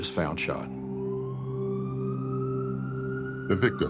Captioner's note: sirens